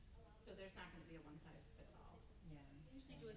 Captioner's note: stammers